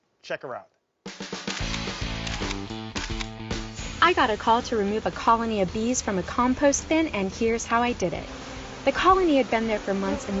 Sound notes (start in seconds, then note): 1.1 upbeat music; 1.4 camera clicking